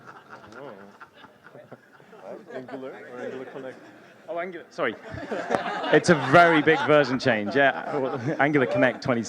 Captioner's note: laughter